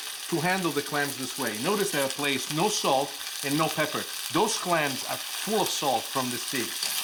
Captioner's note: none